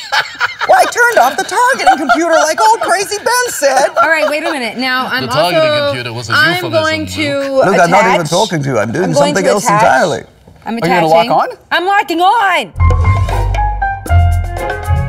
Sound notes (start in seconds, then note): 6.2 imitating obi-wan